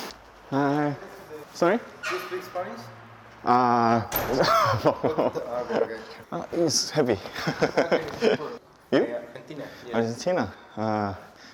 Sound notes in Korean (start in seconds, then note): 4.3 웃음